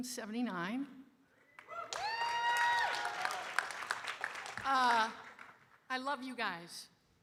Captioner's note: audience cheering and applauding